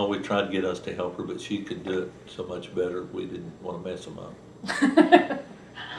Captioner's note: laughter